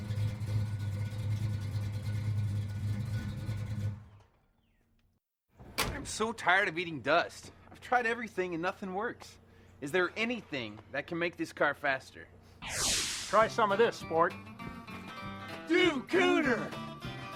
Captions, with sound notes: (engine running) (engine off) I'm so tired of eating dust. I've tried everything, and nothin' works. Is there "anything" that can make this car faster? Try some of this, sport. - Duke Cooter! - Duke Cooter!